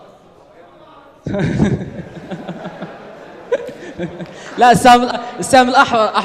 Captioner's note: laughing because of the misunderstanding